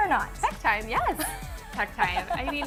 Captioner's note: laughs